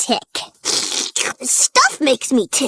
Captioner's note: slurping